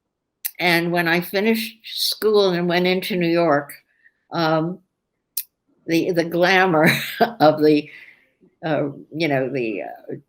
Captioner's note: laughs